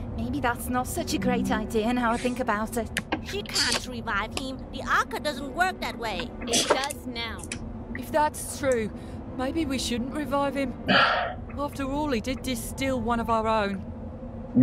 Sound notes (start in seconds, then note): 6.2 scoffs; 10.9 Musky sighs